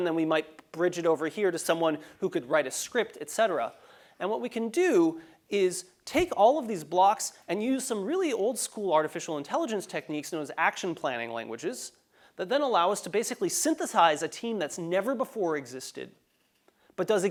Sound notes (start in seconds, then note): none